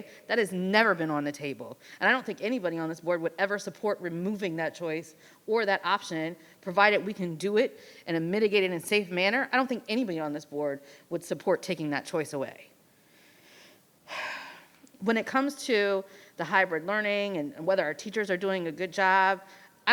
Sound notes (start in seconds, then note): 14.1 exhales deeply